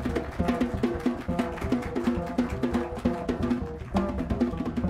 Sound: applause

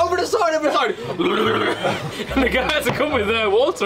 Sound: imitates throwing up

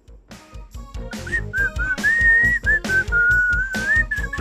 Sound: roger whistles

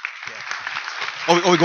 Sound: applause

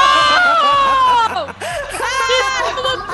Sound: laugh

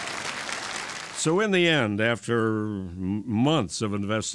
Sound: applause

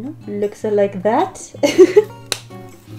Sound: laughs

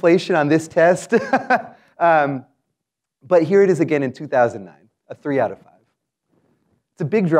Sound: laugh

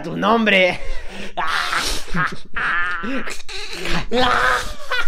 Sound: More Mexicans laughs

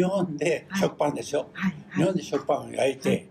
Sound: foreign language

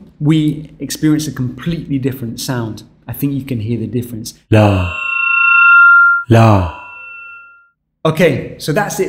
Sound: says "la" with feedback audible

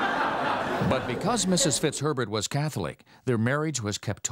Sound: audience laughs; voiceover

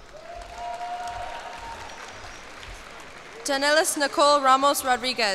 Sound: cheers and applause

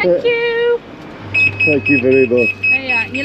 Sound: loud beeping

